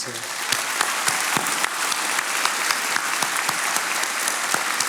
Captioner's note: attendees applauding